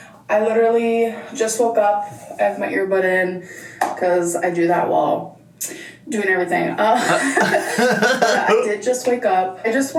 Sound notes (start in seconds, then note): 7.0 laughs